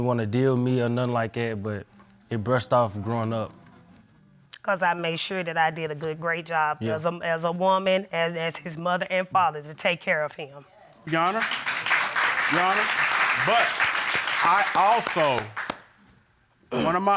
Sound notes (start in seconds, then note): 11.0 audience applauding